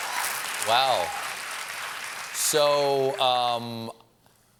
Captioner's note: cheers and applause